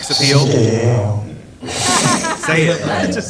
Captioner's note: cough